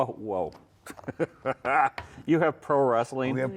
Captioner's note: laughs